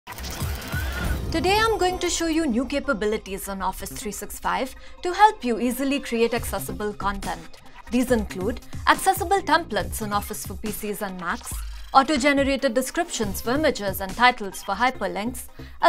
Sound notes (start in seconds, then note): 0.1 machine startup